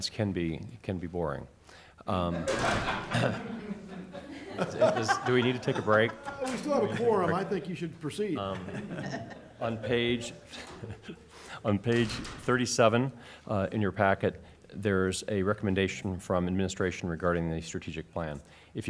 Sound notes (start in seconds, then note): 2.3 laughter